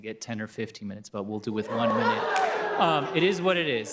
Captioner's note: exclamation